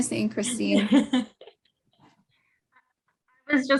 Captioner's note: laughs